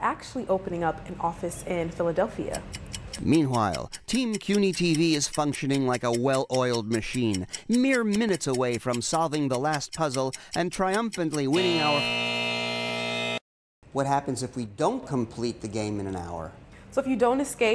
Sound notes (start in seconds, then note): 11.5 buzzzz